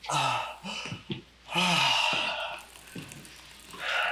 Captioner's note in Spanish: Isaac jadeando